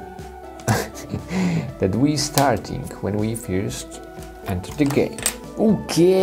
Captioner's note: chuckles